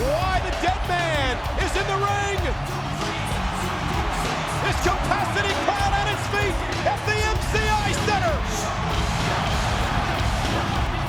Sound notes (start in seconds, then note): 2.1 crowd cheering; 2.1 upbeat music continues; 7.9 crowd cheering